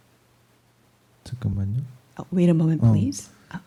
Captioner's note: speaking korean